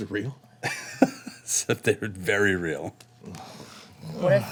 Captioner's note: laughing